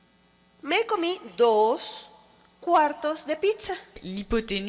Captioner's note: speaking foreign language